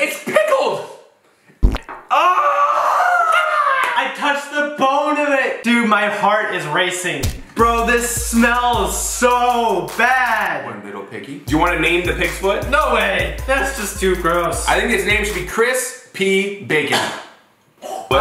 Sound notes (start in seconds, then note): 1.9 squelching; 2.7 shouting